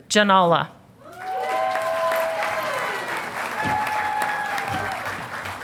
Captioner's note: audience applauding